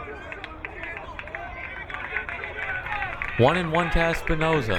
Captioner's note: crowd cheering